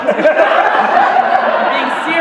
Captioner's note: laughter